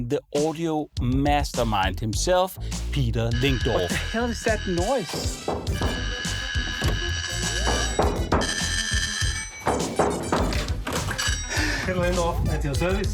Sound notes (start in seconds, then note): 8.0 knocking